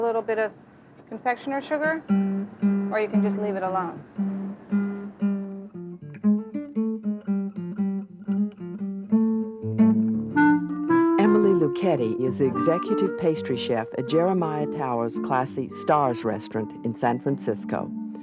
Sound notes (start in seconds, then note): 11.3 voiceover